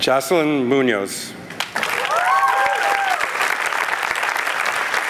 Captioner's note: applause